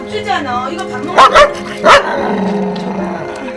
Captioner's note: growling